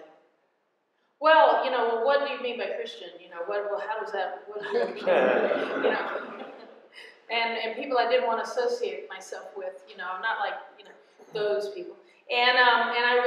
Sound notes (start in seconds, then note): 4.6 laughter